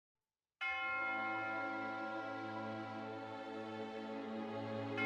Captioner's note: bell Ringing